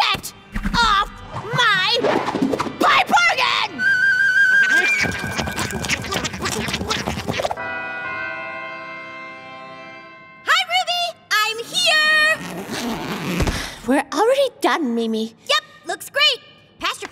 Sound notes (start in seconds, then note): 4.6 raccoons chattering